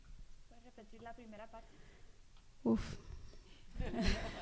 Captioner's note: speaking spanish